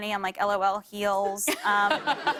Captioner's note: laughter